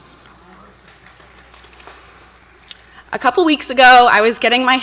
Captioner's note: audience applauds